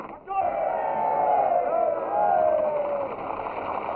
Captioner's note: all cheering